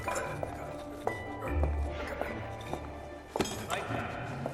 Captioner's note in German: Schritte nähern sich